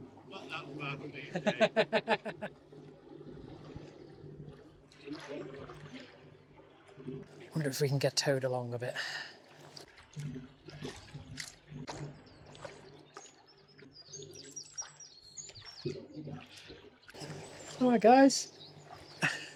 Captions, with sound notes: "I'm not that fast these days" (laughing) I wonder if we can get towed along a bit. Alright guys.